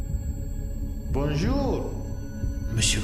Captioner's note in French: Accent italien